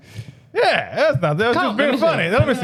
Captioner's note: laughing